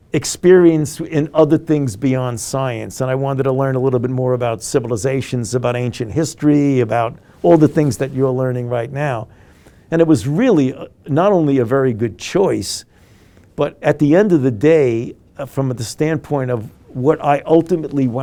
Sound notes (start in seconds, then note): none